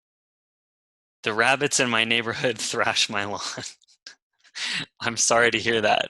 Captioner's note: laughs